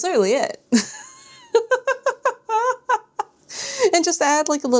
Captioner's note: laughter